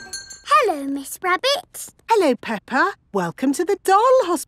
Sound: none

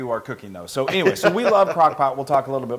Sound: laugh

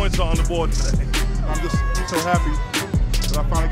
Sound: crowd cheering

